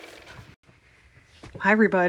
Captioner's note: car motor